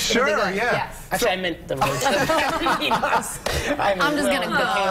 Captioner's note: laughter